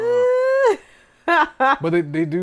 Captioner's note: laughing